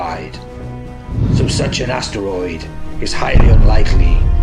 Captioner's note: thunder rumbling